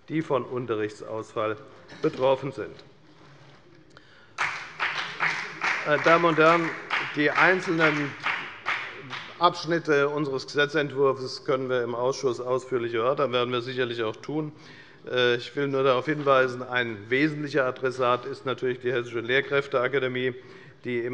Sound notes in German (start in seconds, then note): 4.3 Beifall bei der FDP